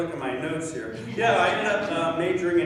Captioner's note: laughing